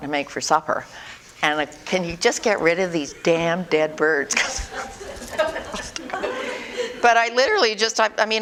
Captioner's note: audience: Laughter